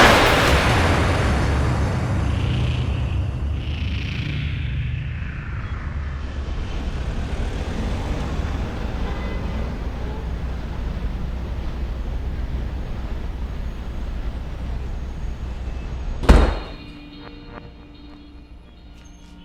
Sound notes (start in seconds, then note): 0.1 dramatic noise; 7.6 engine rumbling; 16.2 door slamming